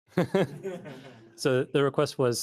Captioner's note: laughter